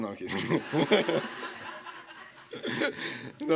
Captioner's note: laughter